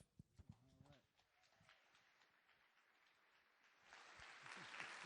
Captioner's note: audience clapping